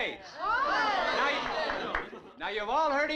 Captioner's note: crowd gasping